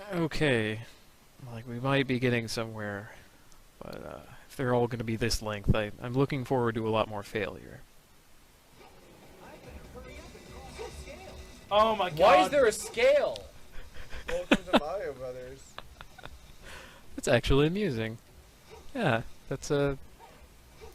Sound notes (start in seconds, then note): 15.5 chuckles